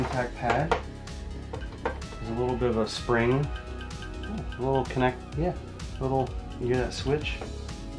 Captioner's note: squeaky clicking noises